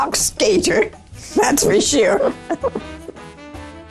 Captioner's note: laughter